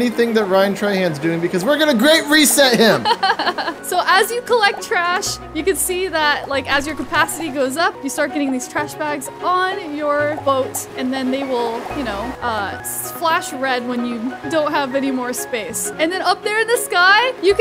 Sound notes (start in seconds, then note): 2.8 laughs